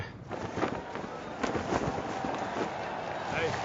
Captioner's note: flapping